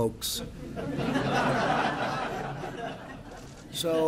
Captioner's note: laughter